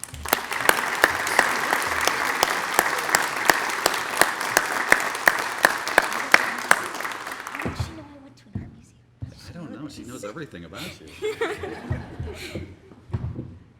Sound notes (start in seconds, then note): 0.0 applause; 10.8 laughter